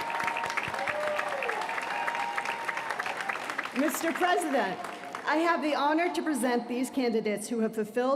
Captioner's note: applause